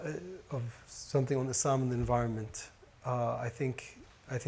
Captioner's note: speaks Arabic